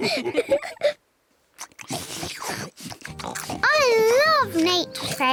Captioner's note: all laugh; all munch